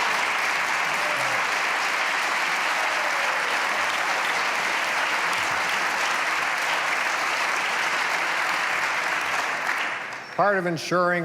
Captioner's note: applause